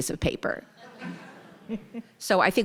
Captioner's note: audience laughing